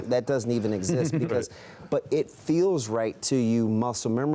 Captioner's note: laughter